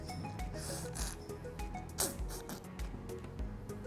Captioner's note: slurping